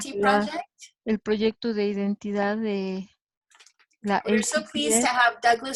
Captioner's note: woman speaking foreign language